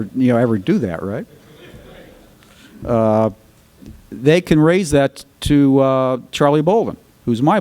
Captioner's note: more laughter